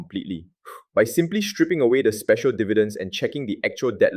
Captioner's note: exhales sharply